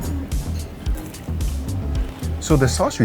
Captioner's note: crunchy bite